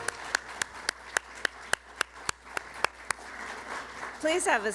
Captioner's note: applause